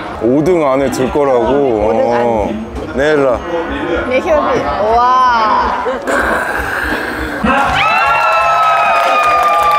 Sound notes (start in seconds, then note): 4.0 laughing